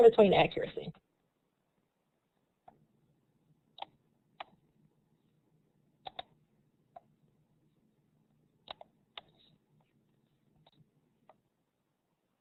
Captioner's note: silence